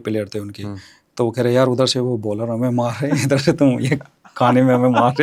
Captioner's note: laughs